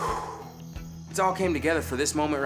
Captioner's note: exhaling deeply